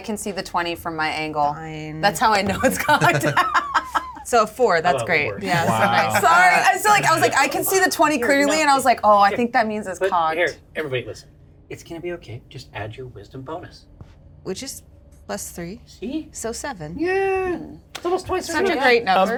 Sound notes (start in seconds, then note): 2.4 chuckles